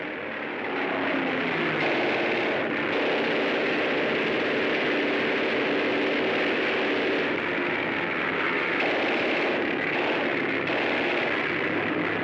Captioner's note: aircraft rumbling; machine gun fire